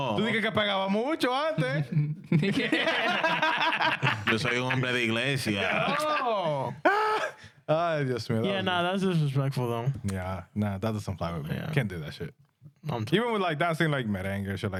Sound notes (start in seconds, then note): 4.5 speaking In Spanish